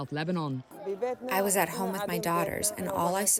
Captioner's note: through translator